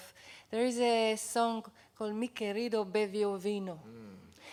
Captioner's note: non-english